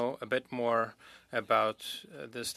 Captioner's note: speaking French